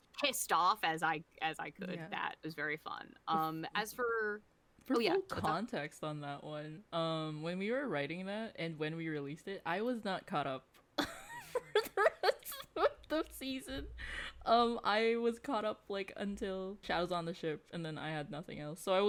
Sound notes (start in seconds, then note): 11.3 wheezing and laughing